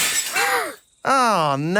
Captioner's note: shatters